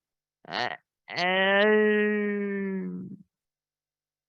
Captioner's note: groaning